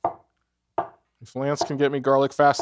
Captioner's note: cleaver thudding